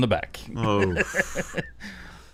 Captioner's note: disgusted groans and laughter